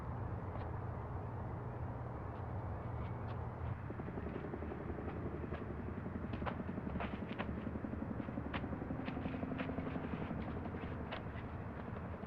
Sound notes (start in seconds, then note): 3.7 helicopter whirring